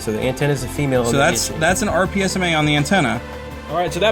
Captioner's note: voiceover